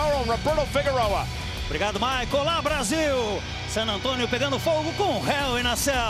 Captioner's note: speaking in Portuguese